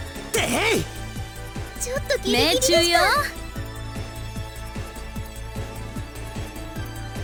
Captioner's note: none